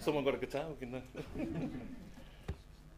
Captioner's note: laughter